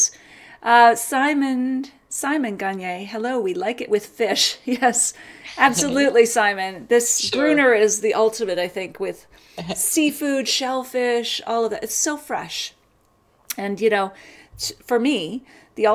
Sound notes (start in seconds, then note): 5.4 laughs